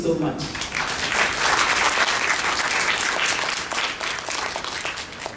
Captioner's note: applause